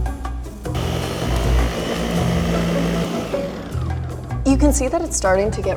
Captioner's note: blender whirring